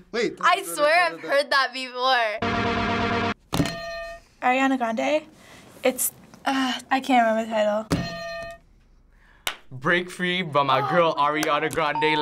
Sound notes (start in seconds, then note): 2.4 edm; 3.7 hitting bell; 8.0 hitting bell